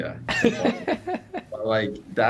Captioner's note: laughing